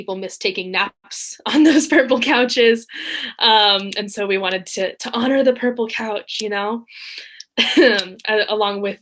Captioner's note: laughs